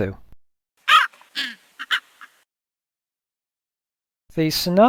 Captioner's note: raven cawing